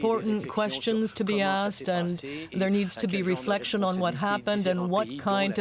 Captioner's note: speaking french